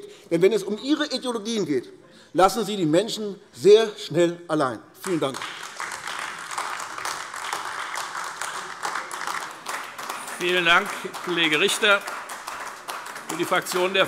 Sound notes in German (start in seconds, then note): 5.0 Beifall AfD